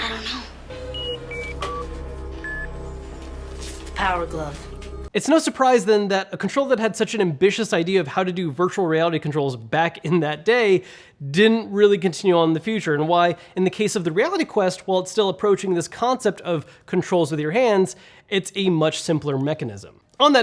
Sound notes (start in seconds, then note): 0.6 beeping